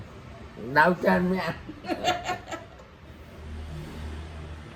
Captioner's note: laugh